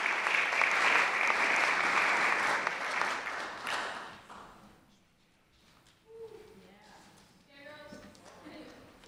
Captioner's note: clapping